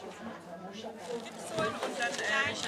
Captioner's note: none